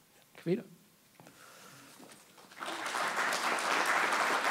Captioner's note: applause